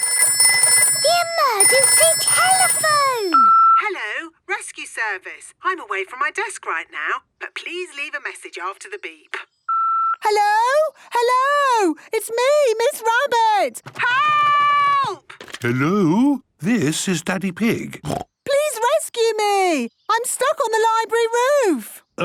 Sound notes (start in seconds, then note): 0.0 phone ringing; 3.3 answering machine; 9.7 beep